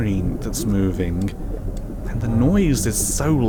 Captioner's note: energy pulses harder